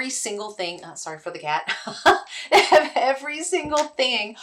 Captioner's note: chuckling